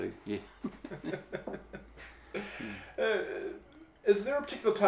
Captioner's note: laughing